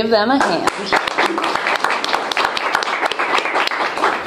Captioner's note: cheering and applause